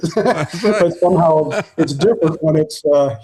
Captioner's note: laughing